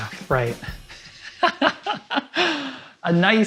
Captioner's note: laughs